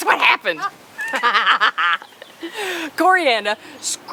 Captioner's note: laughing